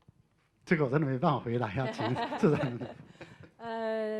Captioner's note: Mandarin